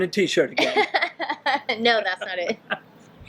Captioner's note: laughing